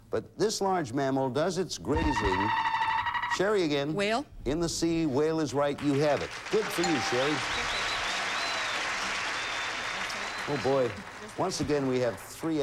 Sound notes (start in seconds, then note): 7.7 audience applauding